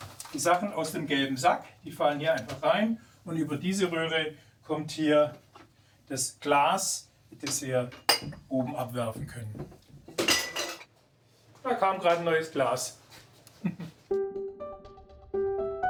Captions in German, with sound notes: die Sachen aus dem Gelben Sack, die fallen hier rein. Und über diese Röhre kommt hier das Glas, das wir oben abwerfen können. (Glas scheppert laut.) Da kam gerade ein neues Glas. (Er lacht.) (Unbeschwerte Musik)